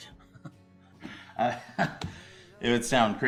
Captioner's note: Alan laughs nervously